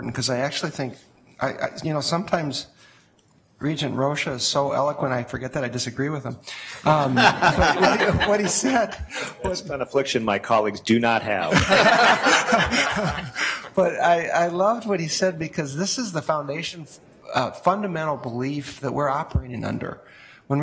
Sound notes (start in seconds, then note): 6.8 audience laughs; 11.4 laughs